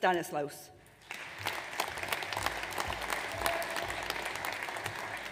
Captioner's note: audience applauds